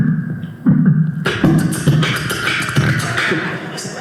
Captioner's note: beat boxing